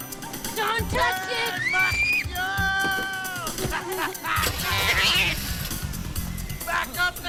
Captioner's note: overlapping chattering